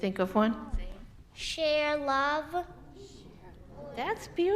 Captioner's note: young voice